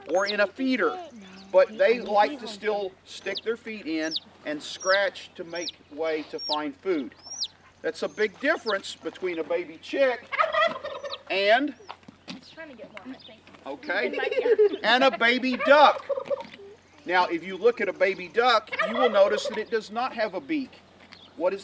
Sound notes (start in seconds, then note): 10.1 turkey gobbling; 13.8 laughs; 14.0 turkey gobbling